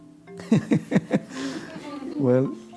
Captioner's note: laughter